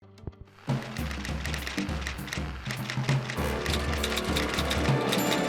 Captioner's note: typewriter clacking